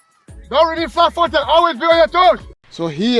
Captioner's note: shouting